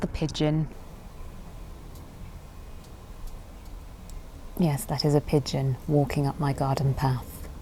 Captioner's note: gravel cruches; pigeon taps it's beak